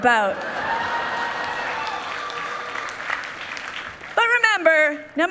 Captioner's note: people cheering